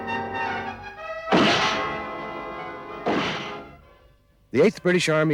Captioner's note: gunshots